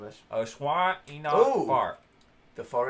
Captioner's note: speaking unintelligible simlish